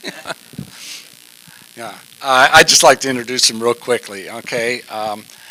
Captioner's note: laughter